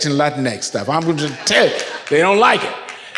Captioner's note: audience laughs